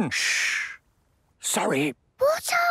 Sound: whispering; quietly

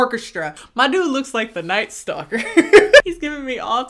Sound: laughs

